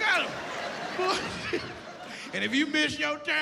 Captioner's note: laughs